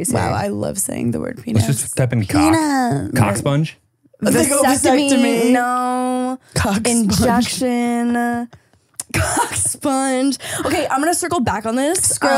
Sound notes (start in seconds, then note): 9.1 laughing